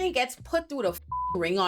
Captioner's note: beep